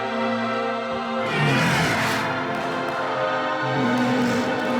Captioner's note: screams and roars